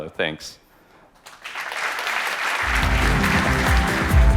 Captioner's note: applause